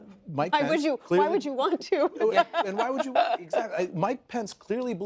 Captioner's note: laughs